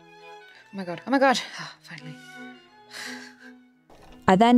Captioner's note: laughs